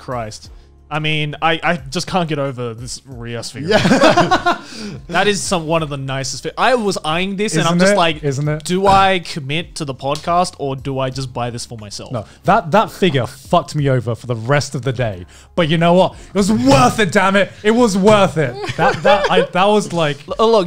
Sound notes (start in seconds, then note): 3.6 laugh